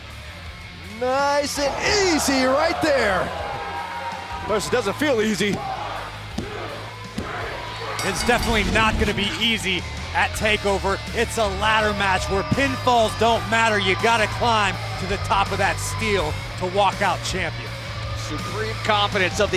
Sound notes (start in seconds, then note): 7.9 bell ringing